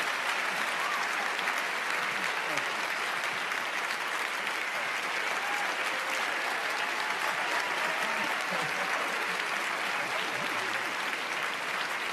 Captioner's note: applause